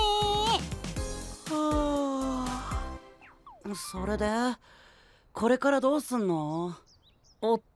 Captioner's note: yawn